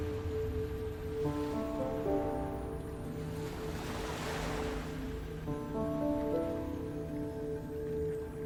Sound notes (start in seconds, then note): 1.8 somber piano music; 1.8 waves splashing